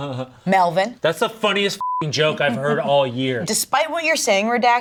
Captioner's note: beep